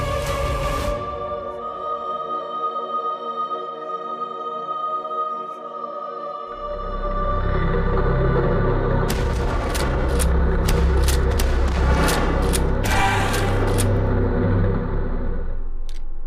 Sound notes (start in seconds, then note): 3.1 dramatic orchestral music; 3.1 singer vocalizing; 7.5 monster rasping; 8.8 gun firing; 12.4 monster groaning; 16.0 gentle tense music; 16.0 muffled 1920's music